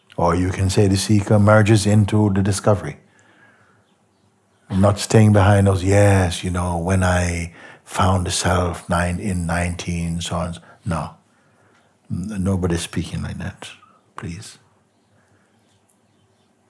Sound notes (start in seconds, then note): none